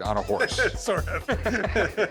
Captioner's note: laughing